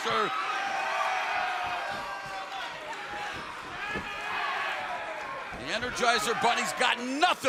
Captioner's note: crowd cheering